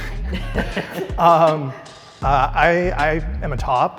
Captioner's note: contestants laugh